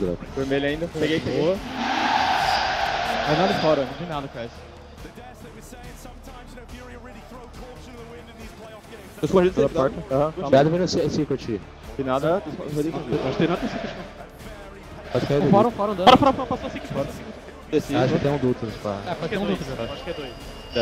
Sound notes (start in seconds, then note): 1.5 crowd screaming